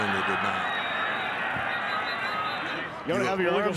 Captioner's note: referee blows whistle